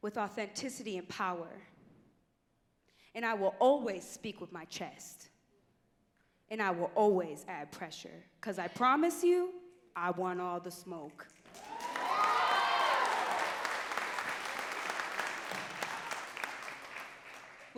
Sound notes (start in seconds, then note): 12.9 audience cheering and clapping